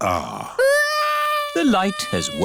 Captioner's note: crying